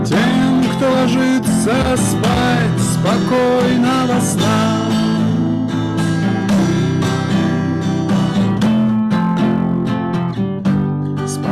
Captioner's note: mockingly